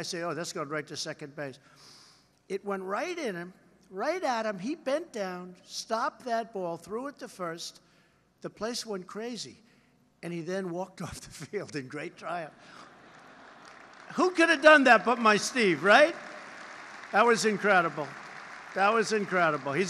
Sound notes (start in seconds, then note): 12.8 laughter and applause; 15.9 applause